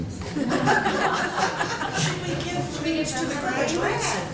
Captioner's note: laughter